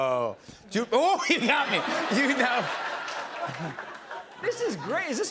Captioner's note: laughter